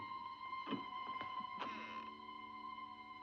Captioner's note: clicking sound